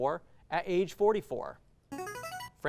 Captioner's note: ring-in sound